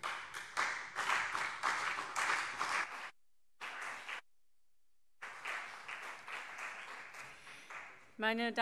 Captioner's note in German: Beifall CDU und BÜNDNIS 90/DIE GRÜNEN